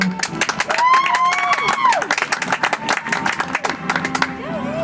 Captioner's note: audience applauds; soft music